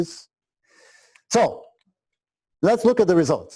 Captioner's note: pause